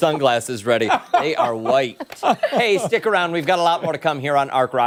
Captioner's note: laughter